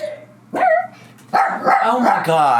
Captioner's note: dogs barking